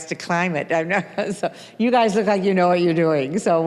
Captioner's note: chuckling